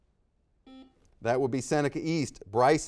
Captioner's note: buzzer dings